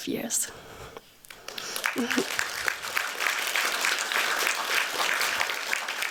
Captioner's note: applause